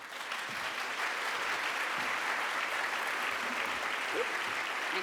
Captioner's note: applause